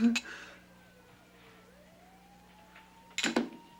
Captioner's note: sirens wailing